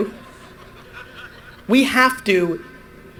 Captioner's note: audience laughter